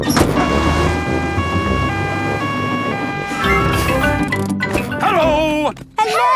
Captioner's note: siren wailing